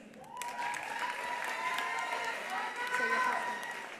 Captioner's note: attendees applauding; attendees cheering